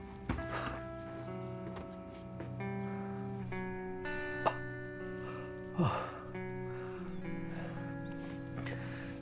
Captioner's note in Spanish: él se queja y suspira